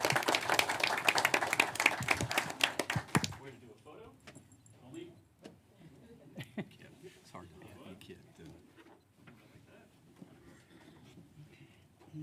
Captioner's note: applause